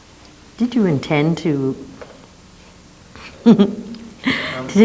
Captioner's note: laughs